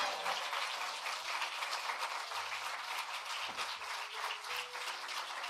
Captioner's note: cheering and applause